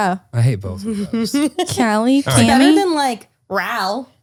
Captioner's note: laughter